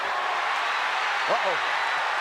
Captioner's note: audience cheers